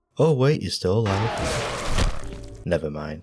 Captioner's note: ungodly scream